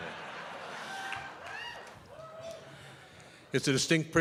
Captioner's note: audience laughing